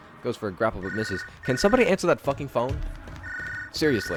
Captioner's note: phone still fucking ringing